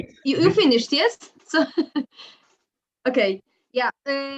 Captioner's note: laughs